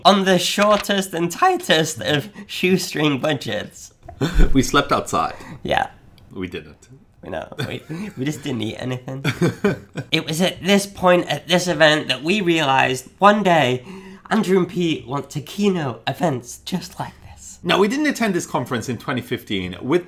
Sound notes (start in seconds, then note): 9.2 laughing